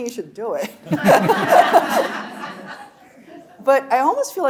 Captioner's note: laughing; audience laughing